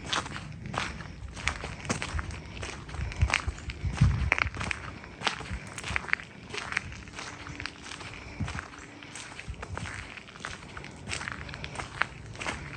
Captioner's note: wind howling